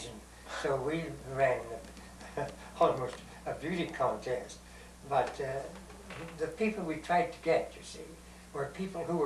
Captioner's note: laughs